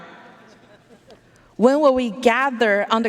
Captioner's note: audience laughing